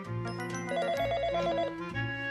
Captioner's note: FX - Office Phone Ring